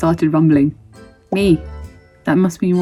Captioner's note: bubble pops